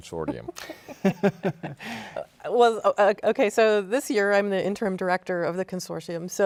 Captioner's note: laughs